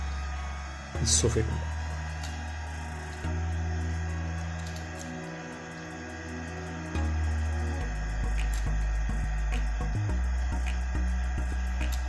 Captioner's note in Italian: Applauso